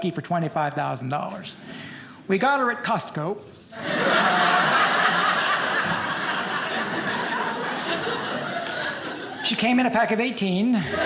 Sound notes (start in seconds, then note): 3.8 audience laughing; 10.8 audience laughing